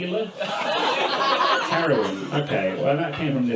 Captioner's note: audience laughs